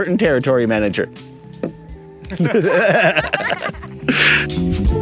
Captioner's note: guys laughing